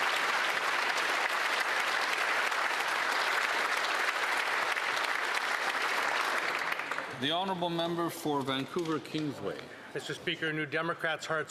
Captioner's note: applause